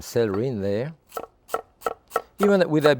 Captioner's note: knife tapping